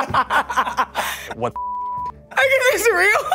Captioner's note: laughs; beeps